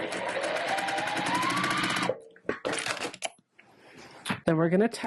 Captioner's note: sewing Machine Noises